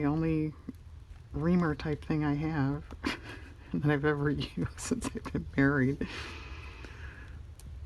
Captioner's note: laughs